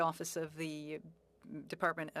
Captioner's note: speaking French